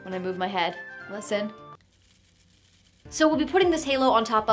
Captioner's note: halo rattles